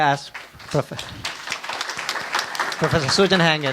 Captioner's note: audience applauds